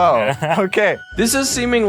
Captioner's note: interviewee laughs